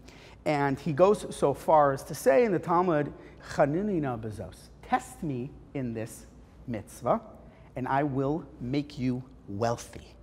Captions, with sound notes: And he goes so far to say in the Talmud [Hebrew] test me in this mitzvah and I will make you wealthy.